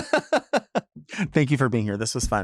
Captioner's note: laughs